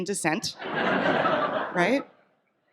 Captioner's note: audience laughs